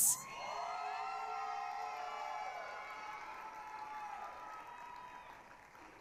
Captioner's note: applause, cheering